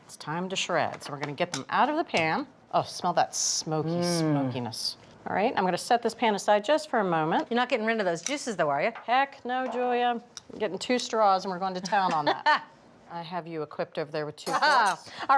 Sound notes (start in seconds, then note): 11.8 laughs